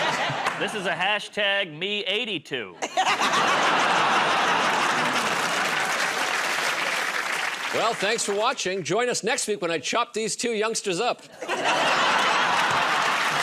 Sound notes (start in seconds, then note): 0.0 laughter; 2.7 laughter; 4.2 applause; 11.3 laughter